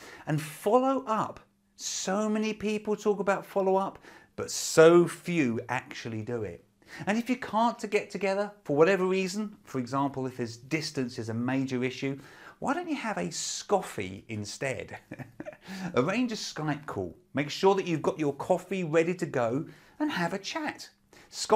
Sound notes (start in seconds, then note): 14.9 laughs